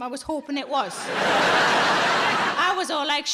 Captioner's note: audience laughing